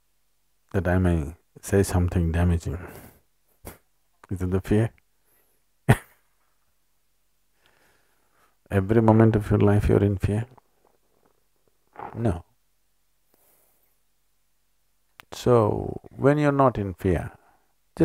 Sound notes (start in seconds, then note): 5.9 laughs